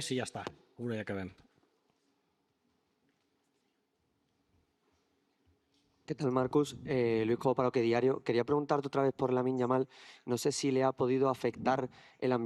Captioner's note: speaking Spanish